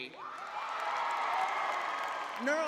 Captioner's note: crowd cheering